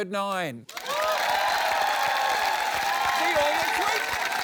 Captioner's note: cheering, applause